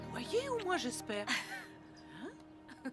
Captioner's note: laughing